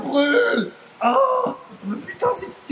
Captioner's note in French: autre cri de douleur